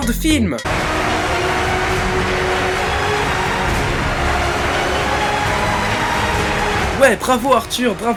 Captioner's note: epic music; applause